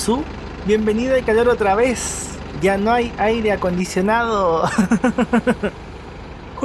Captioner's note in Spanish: risas